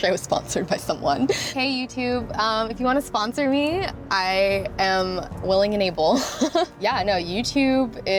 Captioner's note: laughs; giggles